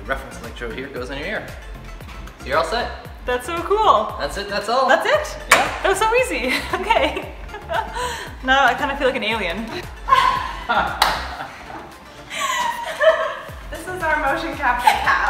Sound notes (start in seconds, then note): 6.4 laughs; 12.2 laughter